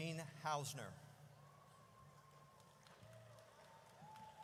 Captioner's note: audience cheers